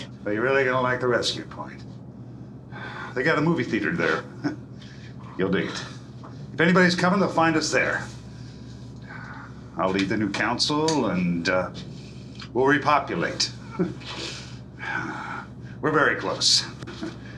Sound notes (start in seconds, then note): 3.6 chuckles; 13.1 chuckles